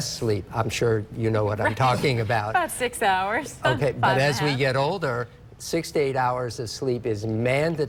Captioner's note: laughs